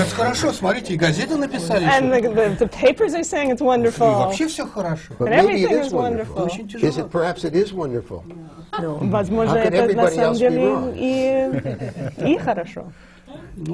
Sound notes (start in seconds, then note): 0.1 foreign language not transcribed; 8.4 foreign language not transcribed